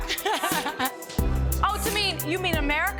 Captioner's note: laughs